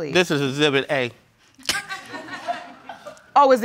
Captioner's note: crowd laughing